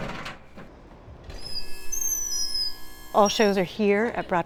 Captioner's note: lift whirs